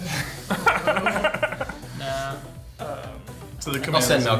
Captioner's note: players laughing